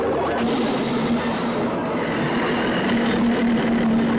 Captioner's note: monster roars